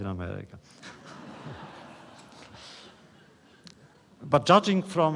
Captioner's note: laughter